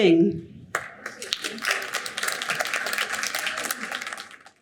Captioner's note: audience applauding